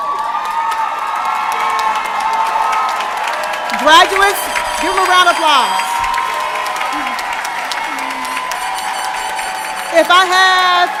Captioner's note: applause